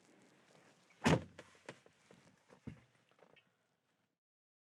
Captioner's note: door slams shut